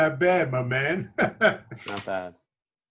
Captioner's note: laughing